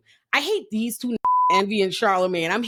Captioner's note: beep